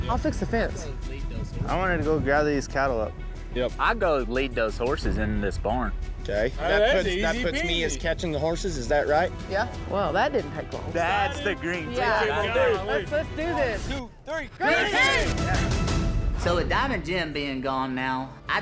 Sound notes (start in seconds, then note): 11.0 cowboys cheering